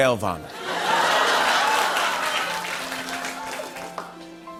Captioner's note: laughter